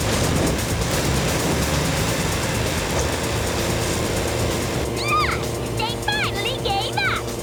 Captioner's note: engines roar